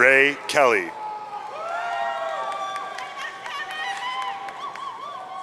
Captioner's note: audience cheering